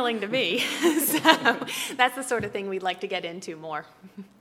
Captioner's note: laugh